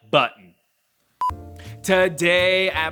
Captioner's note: warning beep